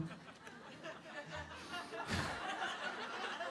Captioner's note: laughter